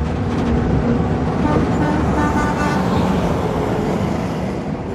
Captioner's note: truck horn